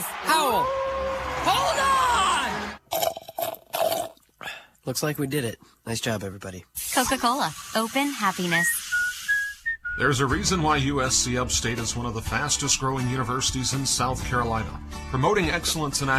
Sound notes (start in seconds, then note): 0.9 wolf howling; 2.8 sipping of drink